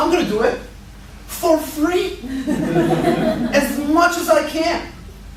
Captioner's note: laughter